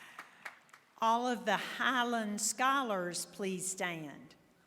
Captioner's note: applause